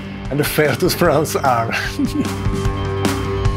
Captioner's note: laughing